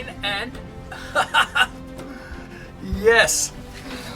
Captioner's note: laughing